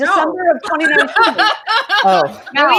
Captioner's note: laughs